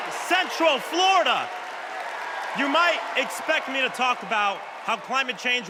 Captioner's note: cheers and applause